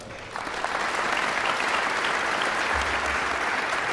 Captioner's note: guests applauding